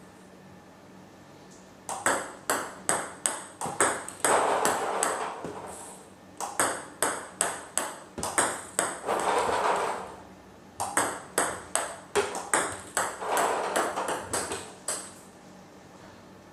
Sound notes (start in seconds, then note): 0.1 ball ping pong hitting continues; 8.6 ball ping pong hitting continues